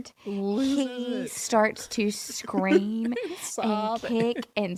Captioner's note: laughs